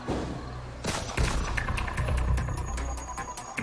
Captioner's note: gun shots; upbeat music